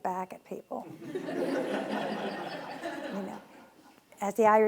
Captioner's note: laughing